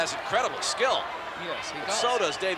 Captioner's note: crowd clamoring